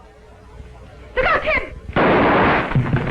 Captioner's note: gunshots